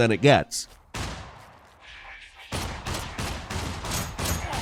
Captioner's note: gunshots firing